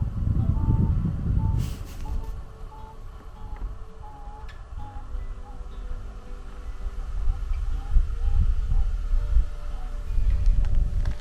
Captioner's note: donkey calls